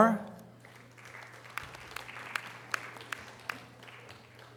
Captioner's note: audience applause